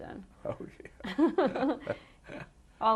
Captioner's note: laughter